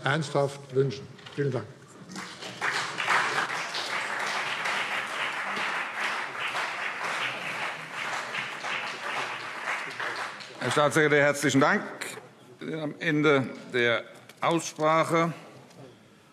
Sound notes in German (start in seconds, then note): 2.1 Beifall CDU und BÜNDNIS 90/DIE GRÜNEN